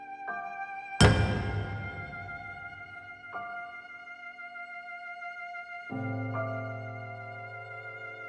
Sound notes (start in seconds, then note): 1.3 sharp tone